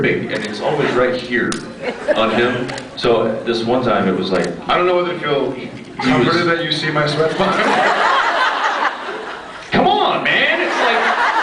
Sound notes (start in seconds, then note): 7.4 laughs